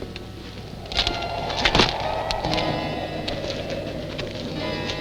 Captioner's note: wind howling